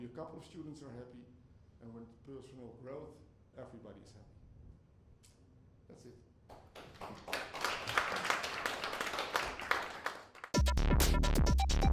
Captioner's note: audience applauds